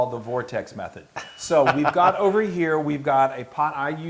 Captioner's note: laugh